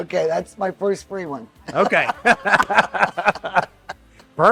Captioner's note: both laughing